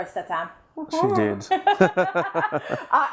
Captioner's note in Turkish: kahkahalar